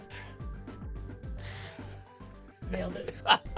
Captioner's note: laughing